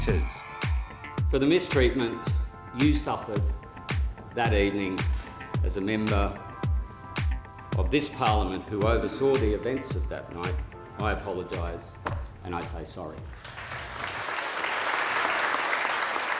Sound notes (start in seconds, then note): 13.3 applause